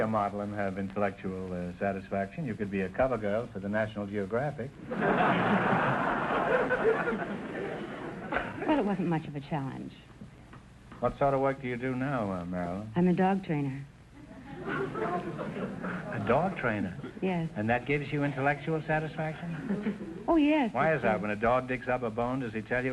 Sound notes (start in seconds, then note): 4.8 audience laughter; 14.2 audience chuckling